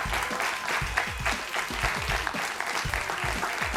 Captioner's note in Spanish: Aplausos